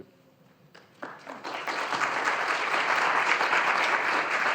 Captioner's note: audience applauding